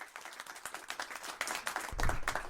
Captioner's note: applause